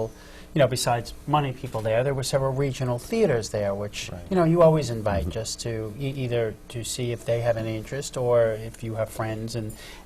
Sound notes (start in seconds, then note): none